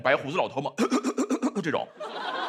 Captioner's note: cough cough cough